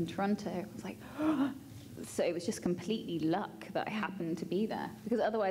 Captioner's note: gasps